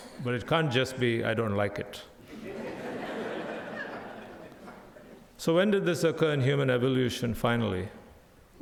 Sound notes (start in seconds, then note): 2.2 audience laughs